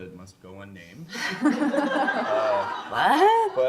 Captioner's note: laughter